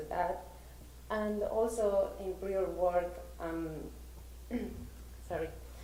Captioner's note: clears throat